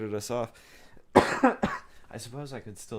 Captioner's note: coughing